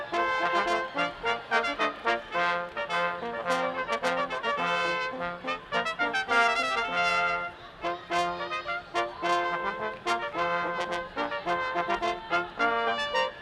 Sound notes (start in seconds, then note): 7.8 people chattering distantly